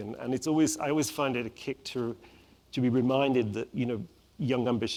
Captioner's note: none